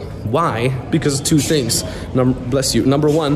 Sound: patron sneezes

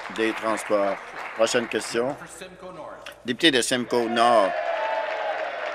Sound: applause

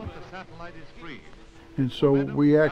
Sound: voice echo from satellite

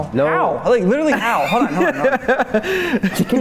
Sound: laughter

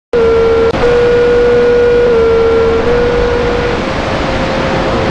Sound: tones

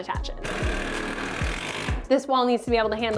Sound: whirring

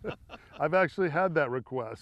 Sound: laughter

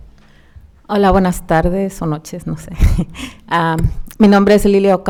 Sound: speaking Spanish

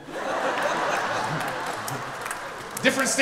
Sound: audience laughs

